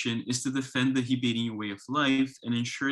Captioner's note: speaks in foreign language